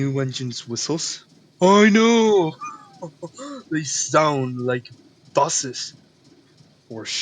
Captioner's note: laughs